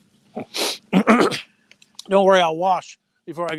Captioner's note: sniffs and clears throat